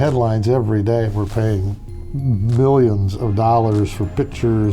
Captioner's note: none